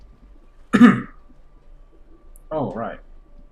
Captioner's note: coughs